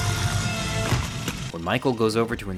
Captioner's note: head thuds